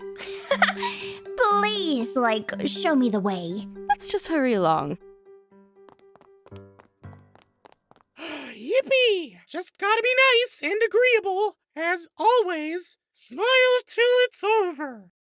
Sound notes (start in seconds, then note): 0.2 laughs; 8.2 sighs